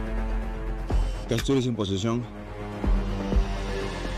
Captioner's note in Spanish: Clic